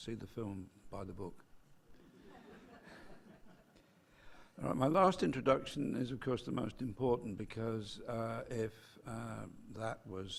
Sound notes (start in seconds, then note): 2.3 laugh